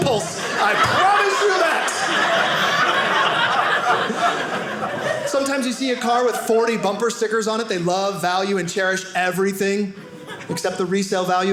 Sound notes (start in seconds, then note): 1.6 audience laughing